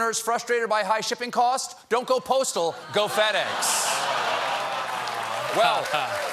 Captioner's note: laughter